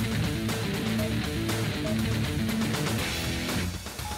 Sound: machine beeps

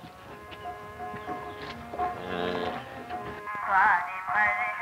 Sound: cow bellowing

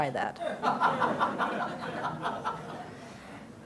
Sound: laughter

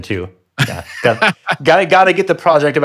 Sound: laughing

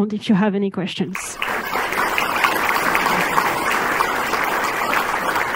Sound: crowd clapping

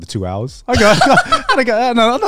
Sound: laughing

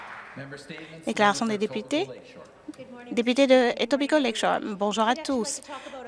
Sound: some Applause

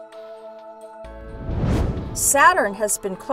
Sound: whoosh

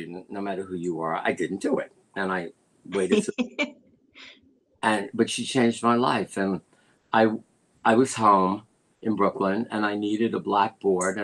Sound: laughter

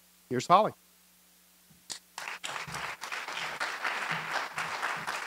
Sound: applause

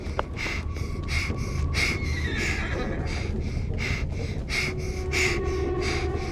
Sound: girl pants, horse winnies, shrill sound plays

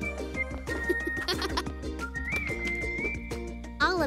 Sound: giggles

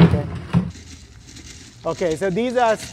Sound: leaves rustle

